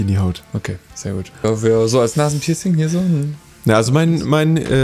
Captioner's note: annoyed noises